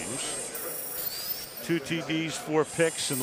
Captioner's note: buzzing